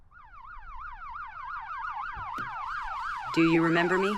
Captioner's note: alarm blaring